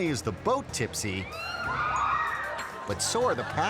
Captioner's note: riders screaming; audience laughing